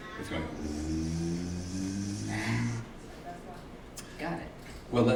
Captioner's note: imitates zipping